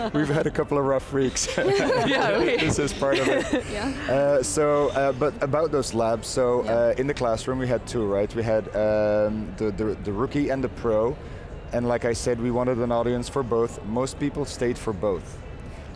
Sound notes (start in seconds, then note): 1.4 laughing